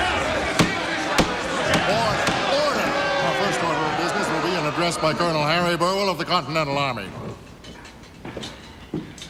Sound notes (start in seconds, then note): 0.0 people chattering; 2.4 crowd clamoring